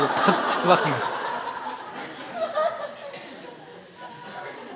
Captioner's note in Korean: 청중 웃음